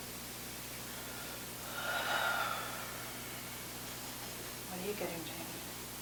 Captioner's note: breathing deeply